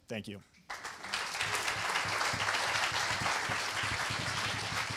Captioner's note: applause